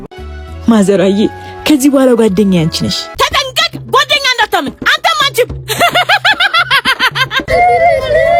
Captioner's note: laughter